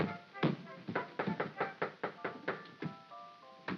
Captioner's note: soft whimsical music; heavy footsteps up stairs; knocking on door; soft whimsical music